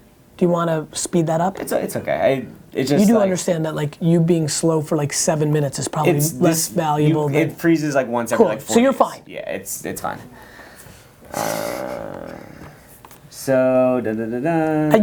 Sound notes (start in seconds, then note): 11.3 man in checked shirt groans